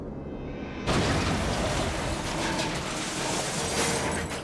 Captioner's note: van crashes